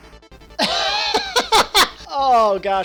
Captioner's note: laughs